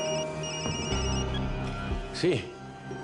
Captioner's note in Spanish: Suena el celular